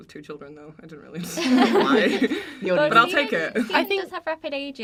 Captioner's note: the cast laugh